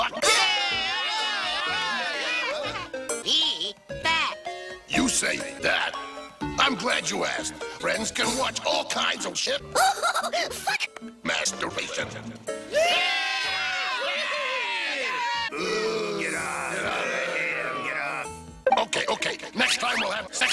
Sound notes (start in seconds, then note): 0.2 cavemen cheer for no reason; 10.1 laughs; 12.7 cavemen cheer again; 15.5 Cavemen start booing